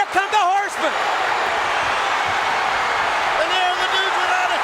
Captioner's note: audience cheering